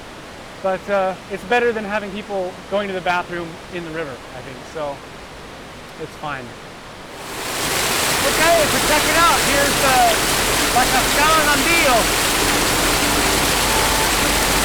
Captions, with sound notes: But it's better than having people going to the bathroom in the river. I think so It's fine (rushing water) OK, so check it out! Here's, ah, La Cascada Nambillo (Chill Music)